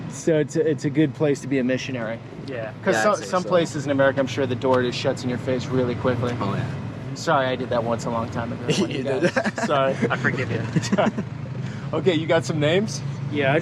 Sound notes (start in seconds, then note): 8.6 laughing; 10.9 men laughing